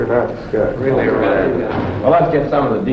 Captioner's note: men chattering